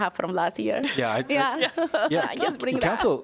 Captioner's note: laughter